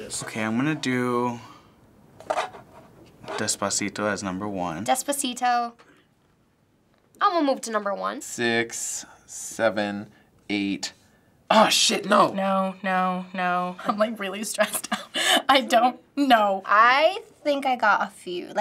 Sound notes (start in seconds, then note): 14.6 chuckles